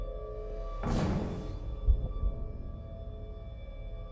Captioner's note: door thuds